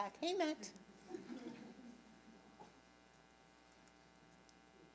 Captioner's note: audience laughing